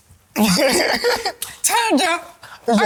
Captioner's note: laughs